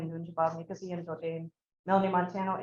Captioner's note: speaking Anishinaabe